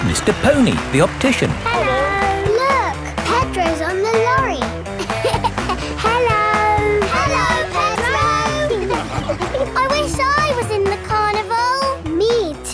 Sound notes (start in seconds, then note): 5.3 laughing